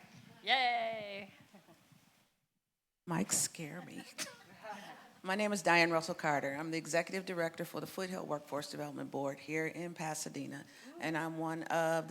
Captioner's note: laughter